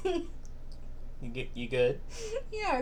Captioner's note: still laughing